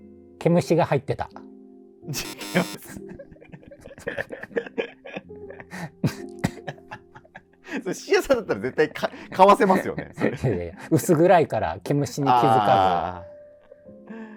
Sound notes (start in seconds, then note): 2.2 laughing